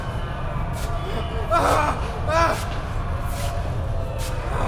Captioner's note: groaning mummies